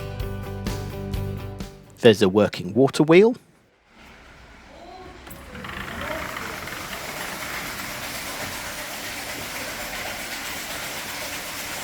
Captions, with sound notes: There’s a working Water wheel [SOUND OF WATER RUNNING OVER THE WHEEL]